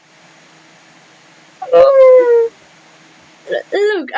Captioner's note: sob straight out of their soul